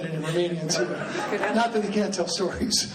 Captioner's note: laughing